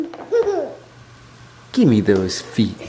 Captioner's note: giggling